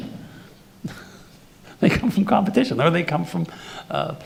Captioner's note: laughs